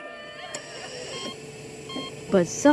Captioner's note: mourners crying; monitors beeping